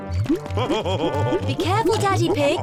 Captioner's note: laughs